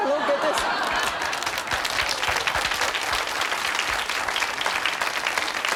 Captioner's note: audience laughing and applauding